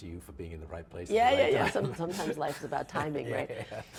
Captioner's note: laughs